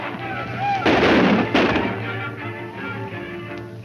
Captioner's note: gunshots